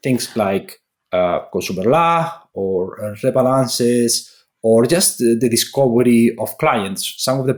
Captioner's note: foreign language 00:19:39